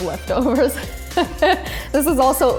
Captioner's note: laughs